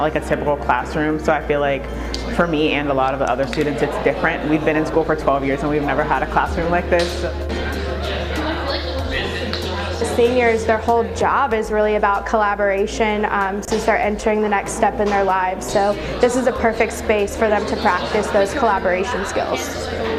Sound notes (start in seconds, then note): 7.2 group chatter